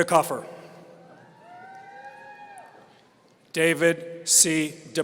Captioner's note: audience cheering